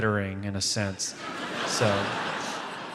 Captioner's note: audience laughs